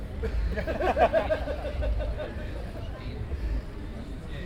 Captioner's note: men laughing